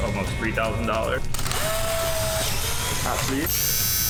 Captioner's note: camera clicks